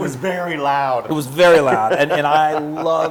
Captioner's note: laugh